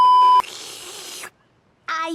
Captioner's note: dramatic slurping